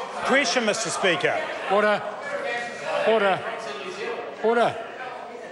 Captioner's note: members talk loudly